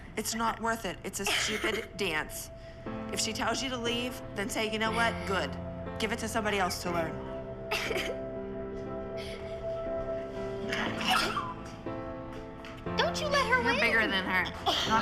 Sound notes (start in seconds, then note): 7.5 crying; 7.5 somber music playing; 10.9 crying